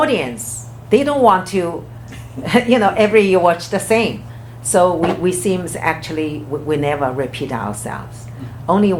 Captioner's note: laughs